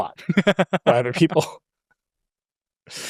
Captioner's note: laughs